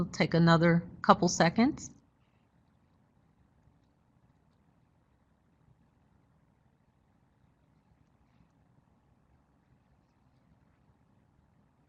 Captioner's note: silence